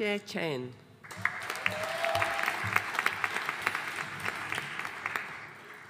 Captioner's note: audience applauding